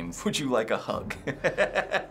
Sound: chuckles

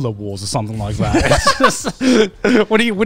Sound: everyone laughs

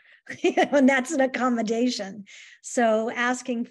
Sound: laughter

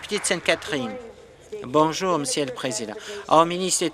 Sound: applause

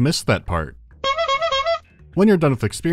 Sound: honk-honk-honk

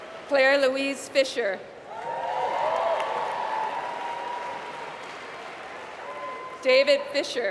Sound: applause

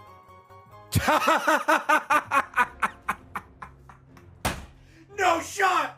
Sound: laughs

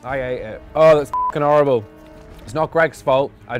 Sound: beep

